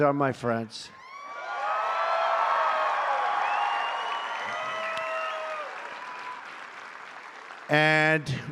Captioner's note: applause